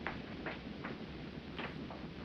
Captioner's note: none